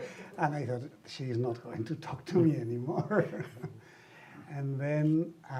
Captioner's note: laughs